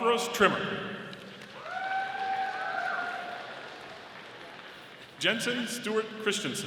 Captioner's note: audience applauding